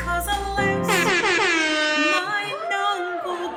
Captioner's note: airhorn blares